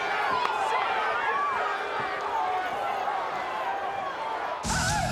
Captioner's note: audience booing and shouting